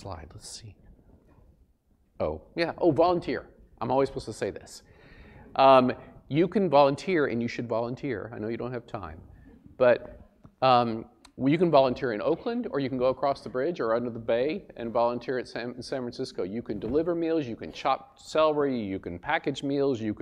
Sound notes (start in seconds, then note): none